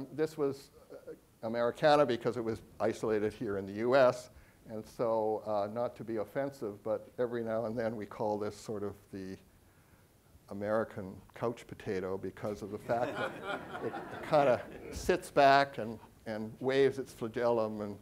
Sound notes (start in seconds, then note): 12.7 audience laughing